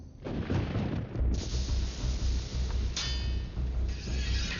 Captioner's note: thunder crashes